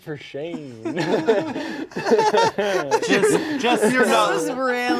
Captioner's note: laughing